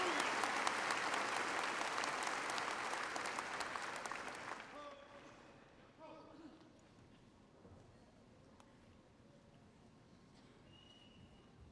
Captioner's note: applause